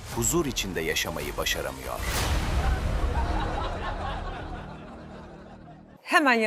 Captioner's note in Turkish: kahkaha